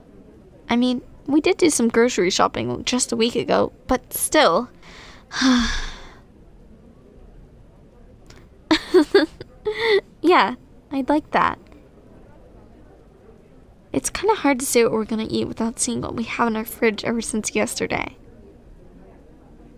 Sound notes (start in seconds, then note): 4.9 sigh; 8.7 soft laugh